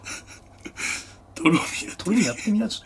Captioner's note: laughter